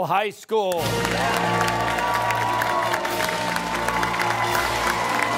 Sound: cheering

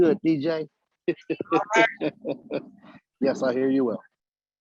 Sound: laughter

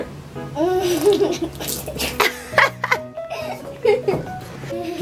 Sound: laughing

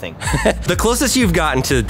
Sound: laughing

